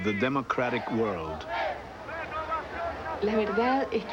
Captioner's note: woman speaking Spanish